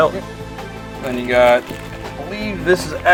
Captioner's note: voiceover